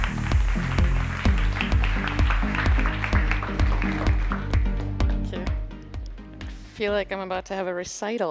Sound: applause

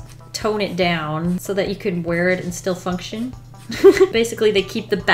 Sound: laughs

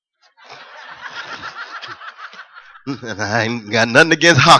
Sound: laughter

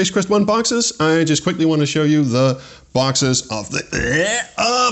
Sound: grunting

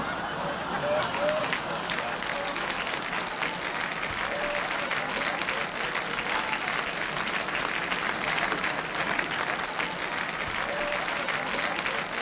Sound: laughter and applause

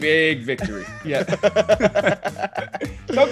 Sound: laugh

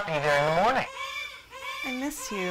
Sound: distant baby crying

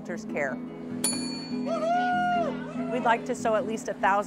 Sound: rings bell

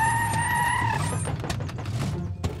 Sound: tyres screeching

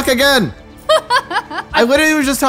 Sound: laughs

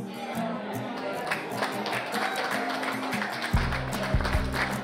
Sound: light guitar music; applause

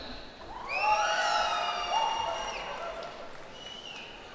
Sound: cheers and applause

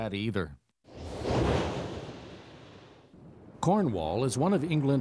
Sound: air whooshing

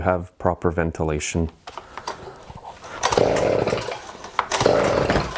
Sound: engine turning over

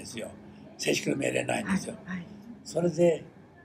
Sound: foreign language

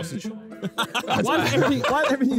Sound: laughs

